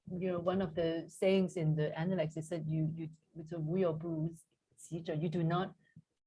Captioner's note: non-english speech